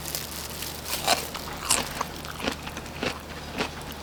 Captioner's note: crunch - crunch